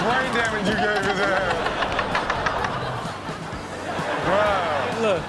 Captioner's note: audience laughs